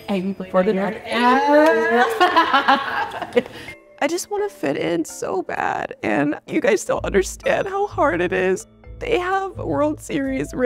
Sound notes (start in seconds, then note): 1.1 laughing; 5.5 crying